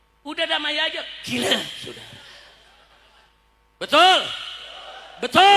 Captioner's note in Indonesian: berdehem